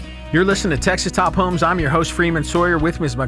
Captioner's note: voiceover